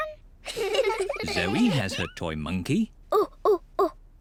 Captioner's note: hoots